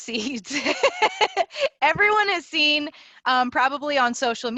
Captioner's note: laughter